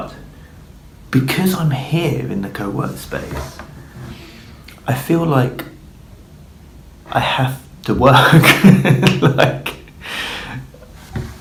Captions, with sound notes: but because I'm here in the co-work space I feel like I have to work. (laughs)